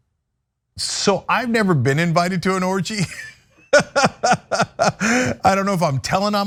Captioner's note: laugh